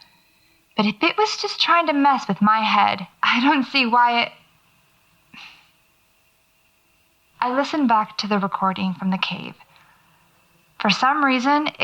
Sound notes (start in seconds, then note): 5.3 sigh